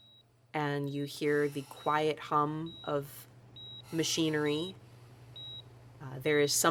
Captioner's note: assisted breathing; beeping